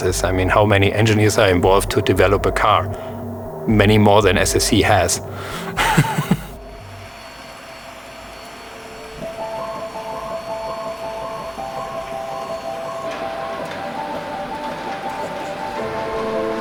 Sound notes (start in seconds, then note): 5.2 laughs; 8.5 machine whirs; 12.1 bright music